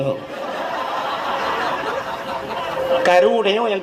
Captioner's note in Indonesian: tertawa